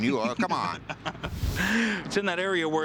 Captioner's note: laughter